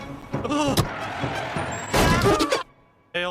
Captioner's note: tires Screeching